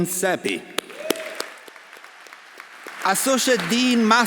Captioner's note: audience applauding; audience cheering